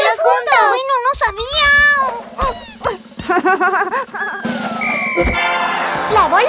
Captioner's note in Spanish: Risas